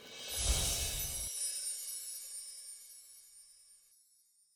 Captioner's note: gently chiming bells